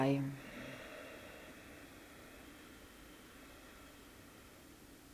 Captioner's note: long exhale